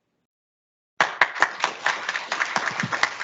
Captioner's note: audience applauds